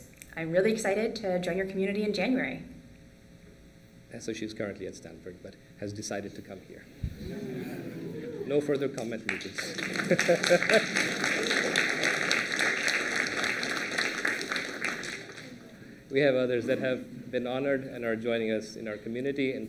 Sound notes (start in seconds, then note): 8.7 applause